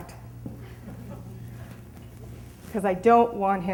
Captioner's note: audience laughs